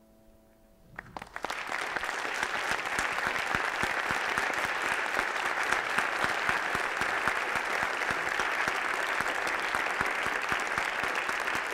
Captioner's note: applause